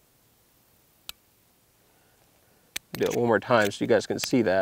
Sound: barrel clicks

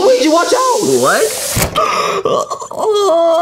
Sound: gasps; Luigi whimpers

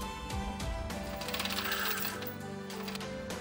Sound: sighs

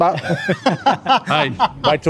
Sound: laughing

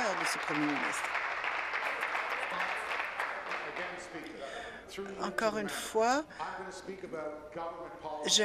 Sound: applause

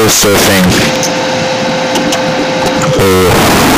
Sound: mom vacuuming

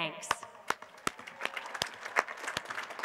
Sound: applause

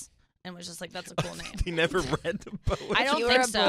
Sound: laughs

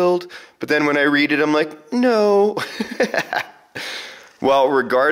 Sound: laughs

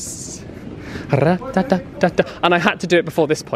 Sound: imitates drum beat

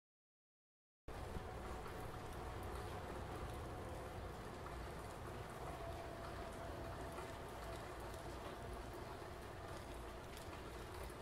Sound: sound of rain storm

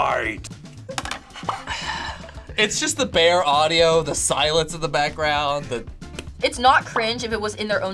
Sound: sighs

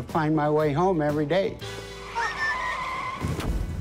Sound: laughs

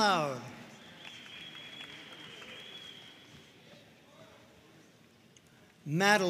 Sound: audience cheering and applauding

